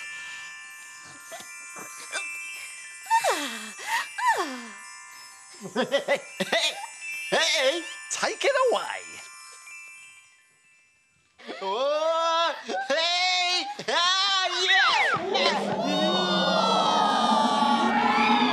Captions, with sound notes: (sighs) (chuckles) Take it away. (all shout) (all cheer)